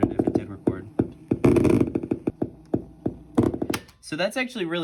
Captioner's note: thumping and crackling noise from the speaker